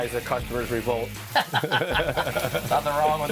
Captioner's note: laughing